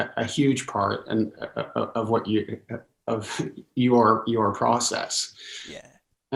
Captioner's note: laughs